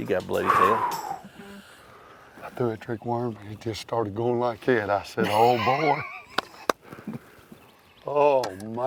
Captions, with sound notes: - I threw that trick worm, but it just started going like that, I said, "Oh boy." (hands clapping) (guy laughs) Oh my. - Ladies and gentlemen,